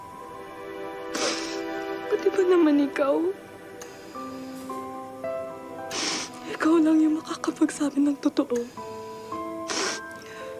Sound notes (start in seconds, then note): 1.1 sniffles; 4.1 somber music playing